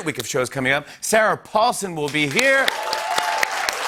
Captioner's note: cheers and applause